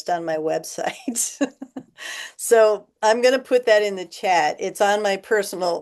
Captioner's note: laughter